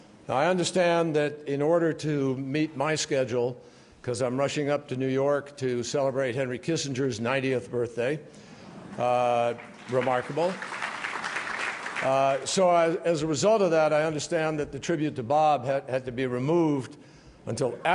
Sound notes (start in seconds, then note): 9.4 applause